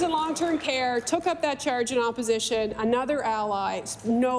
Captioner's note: applause